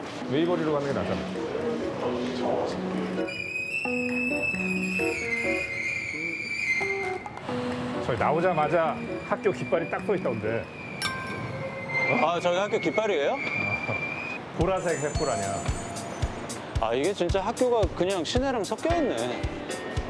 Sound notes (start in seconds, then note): 3.4 passing the noisy turnstile